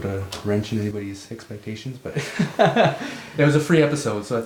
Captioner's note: laughs